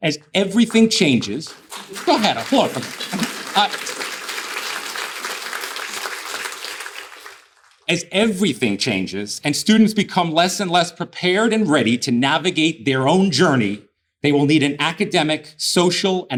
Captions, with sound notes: As everything changes, go ahead, applaud! (audience applauding) As everything changes, and students become less and less prepared and ready to navigate their own journey, they will need an academic, social,